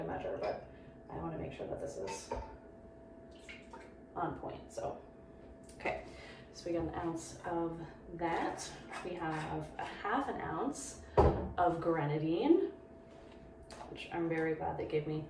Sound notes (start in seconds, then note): 3.3 pouring sound